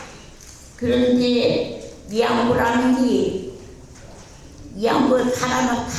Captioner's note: speaking in foreign language